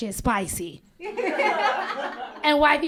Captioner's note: laughter